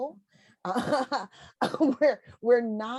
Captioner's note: chuckles